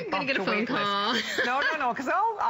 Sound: laughter

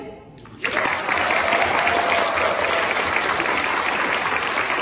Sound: applause

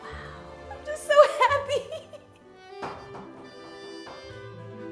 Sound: laughs

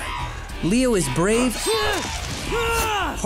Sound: grunting

